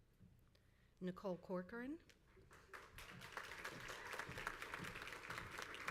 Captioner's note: crowd applauds